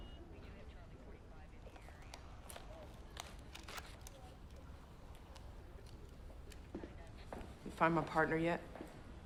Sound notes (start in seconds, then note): 3.4 holster clicks